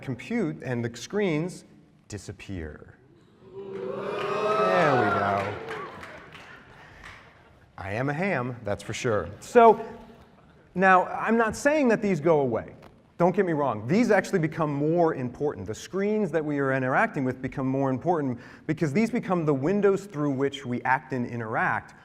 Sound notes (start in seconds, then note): 3.2 oohing